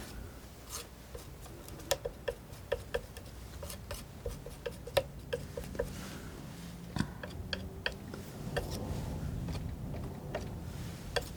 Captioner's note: tapping